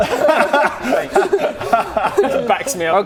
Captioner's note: teacher's pet laughter